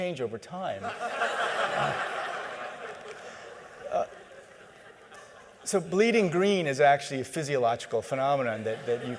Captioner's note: laughter